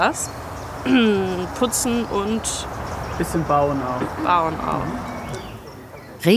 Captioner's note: clearing his throat